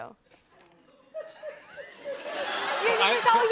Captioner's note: laughter